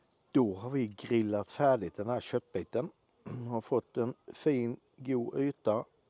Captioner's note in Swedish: harklar sig